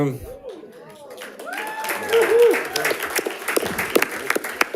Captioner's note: audience cheering